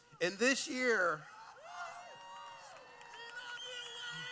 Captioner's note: cheering